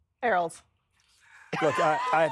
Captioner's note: laughter